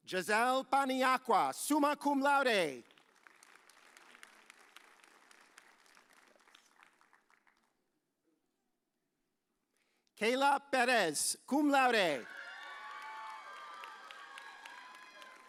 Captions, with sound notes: Giselle Panayakua, summa cum laude. (audience applauds) Kayla Perez, cum laude. (audience cheers)